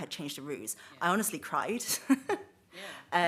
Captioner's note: she chuckles